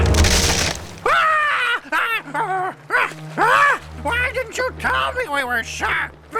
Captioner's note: 鲁伯特尖叫